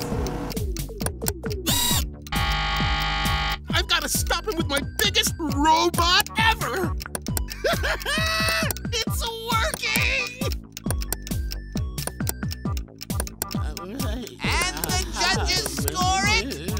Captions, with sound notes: [buzzing ringing] I've gotta stop him with my biggest robot ever. [laughing] It's working! And the judges score it...